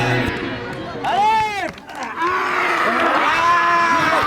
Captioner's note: screaming